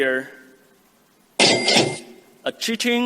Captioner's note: ca-ching